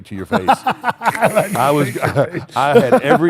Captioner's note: Shawn laughs